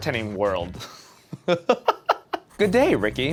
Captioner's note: laughter